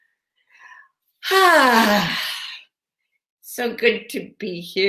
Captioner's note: sighs